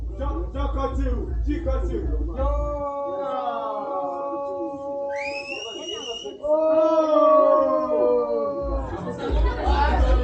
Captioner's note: loud drunken shouting; whistling; drunken singing